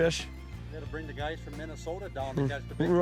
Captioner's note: voiceover